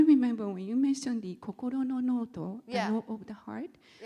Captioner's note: speaking Japanese